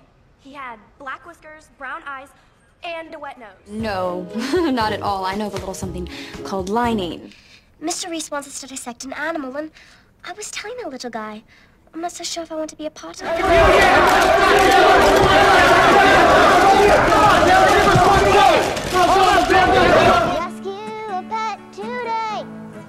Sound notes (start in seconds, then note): 4.3 she laughs; 7.8 English accent